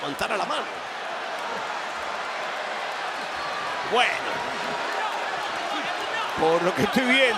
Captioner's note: applause